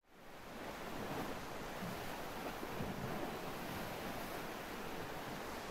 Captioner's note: waves crashing